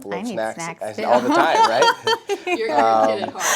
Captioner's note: laughter